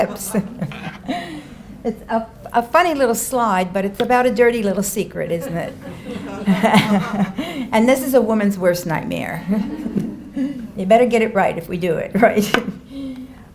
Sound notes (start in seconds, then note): 0.0 chuckles; 5.4 laughs